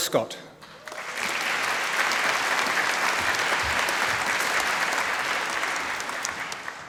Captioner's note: applause